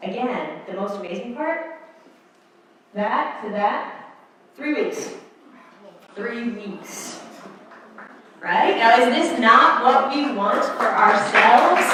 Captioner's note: applause